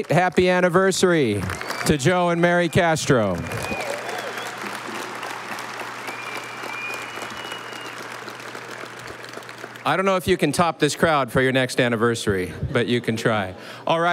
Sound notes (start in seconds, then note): 2.9 audience applauding